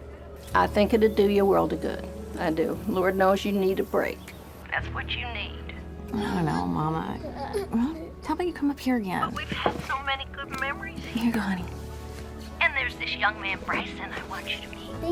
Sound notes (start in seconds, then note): 7.3 children straining, grunting